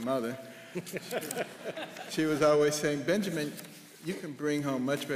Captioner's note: laughter